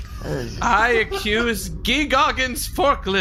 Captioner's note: quietly